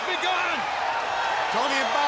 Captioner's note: audience cheering